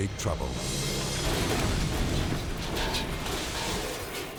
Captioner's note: airplane clashes